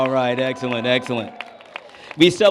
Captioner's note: cheers and applause